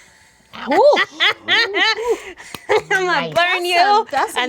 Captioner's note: malicious cackling